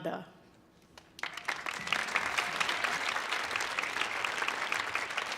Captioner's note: audience applauding